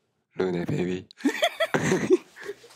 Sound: laughs loudly

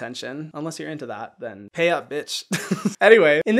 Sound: laughs

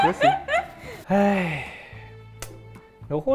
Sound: sigh

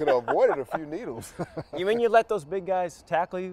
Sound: laughing

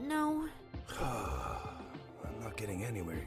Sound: exasperated sigh

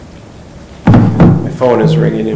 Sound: thudding

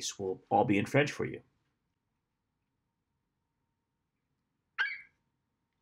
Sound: FlightCheck eagle screeches

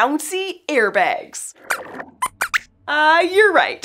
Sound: squeaks squeaks

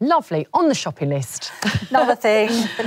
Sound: chuckles

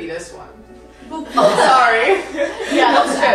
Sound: laughter

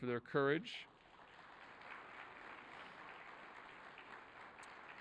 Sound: audience applauding

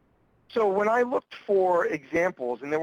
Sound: voiceover

